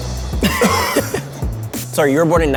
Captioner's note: laughs; coughs